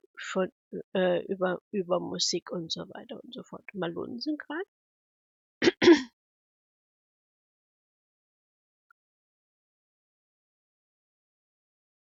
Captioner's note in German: husten; räuspern